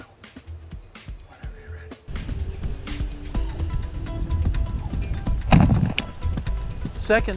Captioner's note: whispering